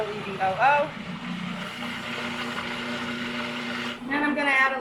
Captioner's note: blender roaring